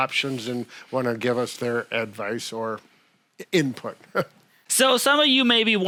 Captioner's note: chuckles